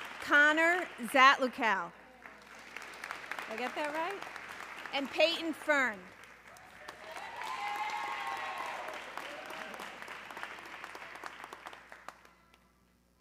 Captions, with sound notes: Connor Zatlucal, (audience clapping) I get that right? And Peyton Fern. (audience cheering)